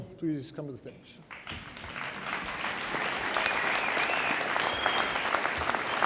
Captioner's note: audience applauding